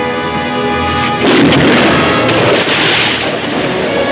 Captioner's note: cannon firing; dramatic music